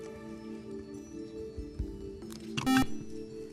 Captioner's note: buzzer